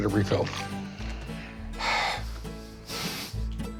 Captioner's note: sighs